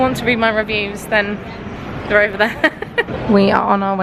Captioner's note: laughing